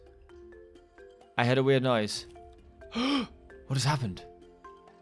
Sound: gasps

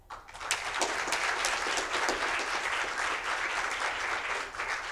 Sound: audience applauding

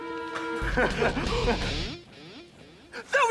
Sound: laughing

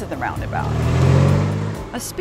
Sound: car passing

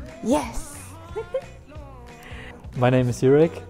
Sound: laughs

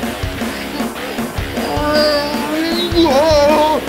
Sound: strained grunting

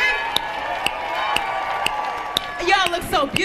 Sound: audience cheering

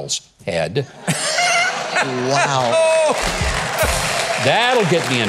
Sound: crowd laughing

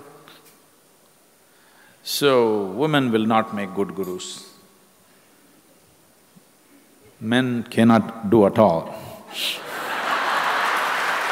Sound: laughter/Applause

